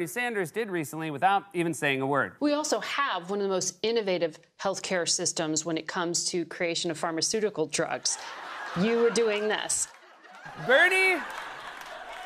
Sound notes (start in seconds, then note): 8.0 laughter; 9.6 applause